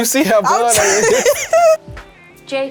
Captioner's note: laughs